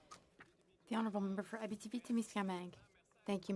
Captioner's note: speaking French